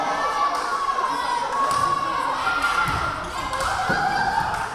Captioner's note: yelling